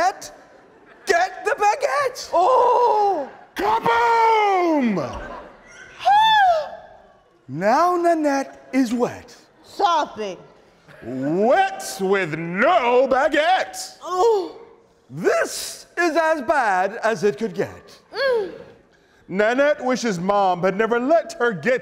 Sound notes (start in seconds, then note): 4.4 gasps; 11.2 weeps